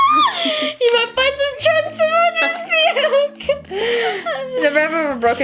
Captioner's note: laughs